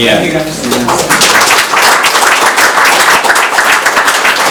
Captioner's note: crowd clapping